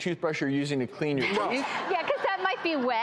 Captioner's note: laughing